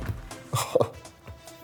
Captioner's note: laughs